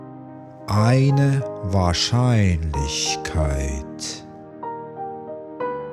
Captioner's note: german